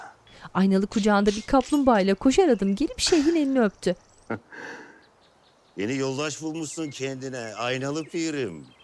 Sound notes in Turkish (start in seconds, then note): 0.0 Kuş cıvıltısı sesi; 4.0 Gülme sesi